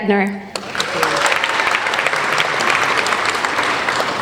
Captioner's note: applauding